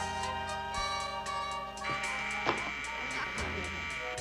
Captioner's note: buzzer rings